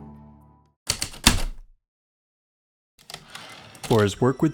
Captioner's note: typewriter clicks and slide